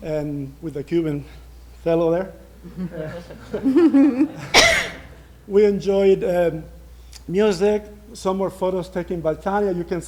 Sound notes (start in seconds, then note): 7.2 laughter